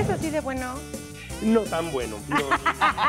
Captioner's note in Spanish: Ríe